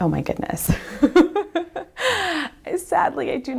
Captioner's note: laughs